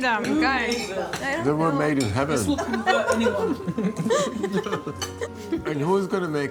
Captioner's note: general laughter